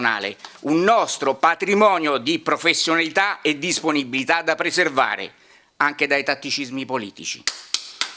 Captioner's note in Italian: Applauso